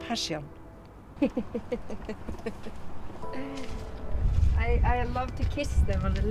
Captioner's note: laughs